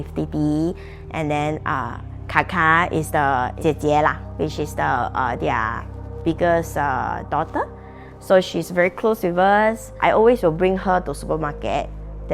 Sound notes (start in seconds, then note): 2.5 in Mandarin